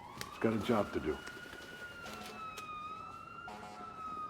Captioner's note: sirens blaring; fire engine horn honking